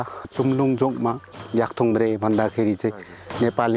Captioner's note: limbu dialect